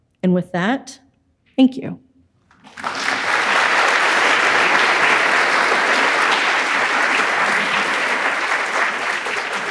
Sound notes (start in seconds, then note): 2.6 audience applauds